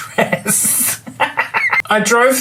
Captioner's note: laughs